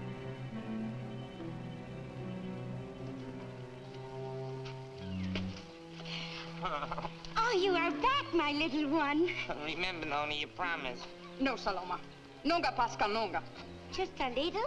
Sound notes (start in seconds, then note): 6.5 Sammy sobs; 12.3 speaks in foreign language